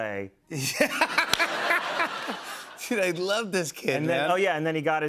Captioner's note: laughing